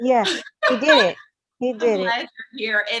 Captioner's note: laughs